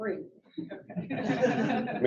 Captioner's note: laughter